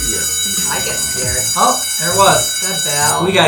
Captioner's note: bell rings